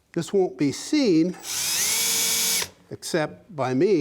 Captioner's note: drilling